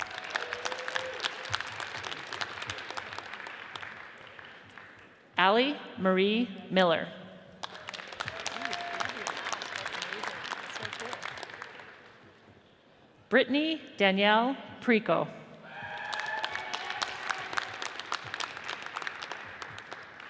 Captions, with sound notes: (audience cheers and applauds) Allie Marie Miller, (audience cheers and applauds) Brittany Danielle Priecko, (audience cheers and applauds)